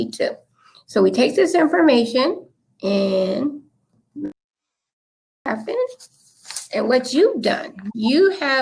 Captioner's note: technical glitch